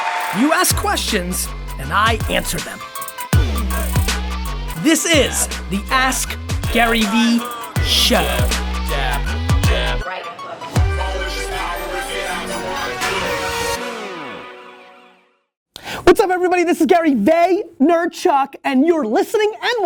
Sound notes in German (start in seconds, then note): 0.0 Publikum applaudiert; 0.0 Voice-over; 14.6 Sirenensignal